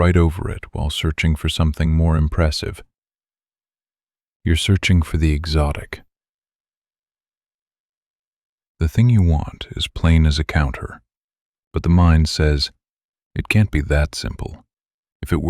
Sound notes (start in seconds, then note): 3.4 short pause